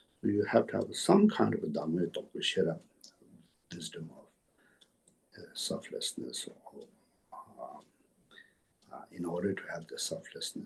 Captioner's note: tibetan